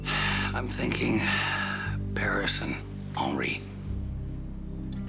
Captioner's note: sighing